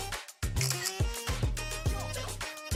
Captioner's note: upbeat music; camera clicking; upbeat music